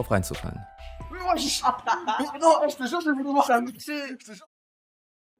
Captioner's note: french